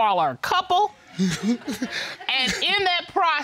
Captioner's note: audience laughs